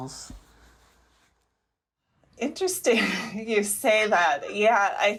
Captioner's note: laughter